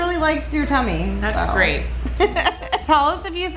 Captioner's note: laughing